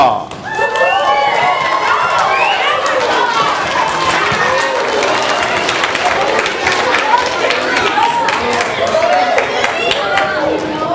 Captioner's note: audience applause